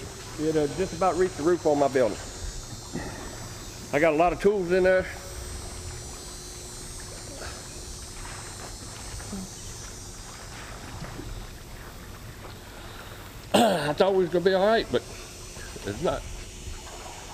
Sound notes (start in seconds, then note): 13.5 clears throat; 15.3 voice breaking